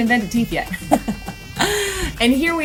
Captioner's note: laughs